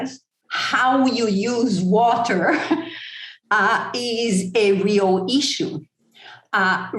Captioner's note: chuckle